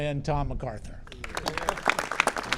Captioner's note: applause